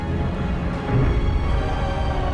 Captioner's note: bom